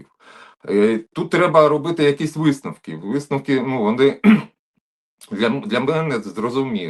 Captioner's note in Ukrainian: прочищення горла